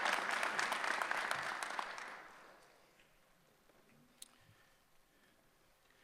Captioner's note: applause